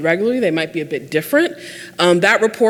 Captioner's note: none